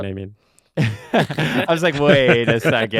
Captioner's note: laughing